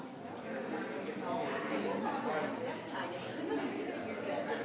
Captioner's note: people chattering